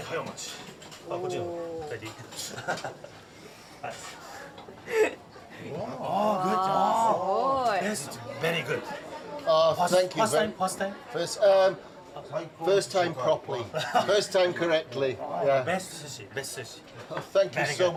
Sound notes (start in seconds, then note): 1.9 speaking Japanese, chuckles; 4.8 chuckles; 7.2 all gasping; 14.5 laughs